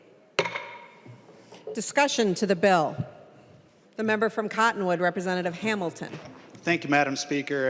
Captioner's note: gavel